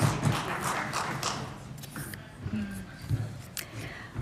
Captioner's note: applause